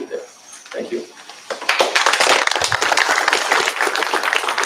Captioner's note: applause